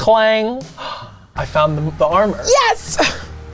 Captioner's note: gasps